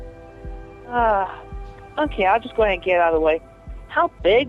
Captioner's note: sigh